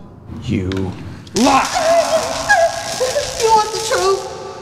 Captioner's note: electrical zapping